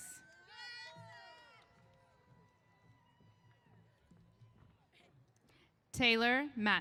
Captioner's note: cheers